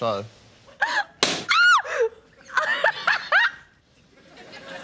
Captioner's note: shrieks, laughs; balloon pops